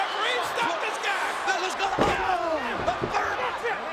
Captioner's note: Jerry mumbling